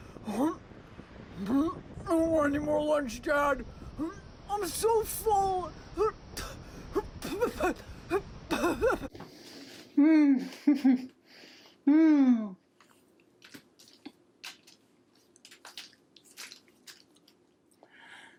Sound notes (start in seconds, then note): 0.1 heaves; 6.9 heaving and spitting